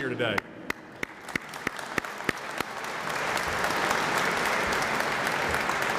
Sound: applause

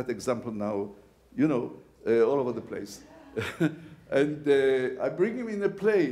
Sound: laughs

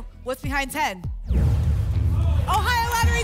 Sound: phaser sound

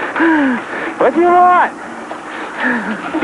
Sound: shouting

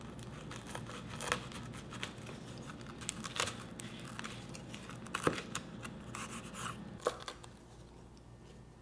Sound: crunching

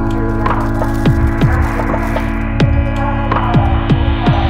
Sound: crinkling of bags

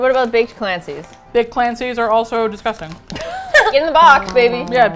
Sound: laughs

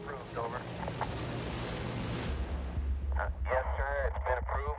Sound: helicopter roaring

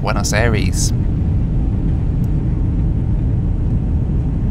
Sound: engine roaring

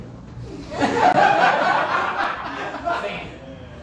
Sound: laughter

